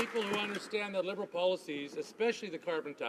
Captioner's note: some Applause